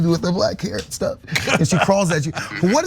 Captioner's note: laugh